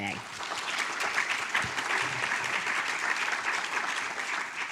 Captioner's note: audience applauds